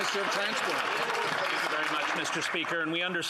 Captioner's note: applause